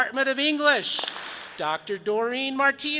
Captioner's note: audience claps